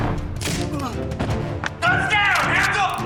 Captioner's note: gun shot, groan